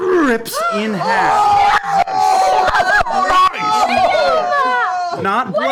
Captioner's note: shouting over each other